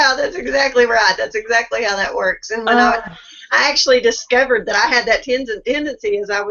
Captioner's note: laughing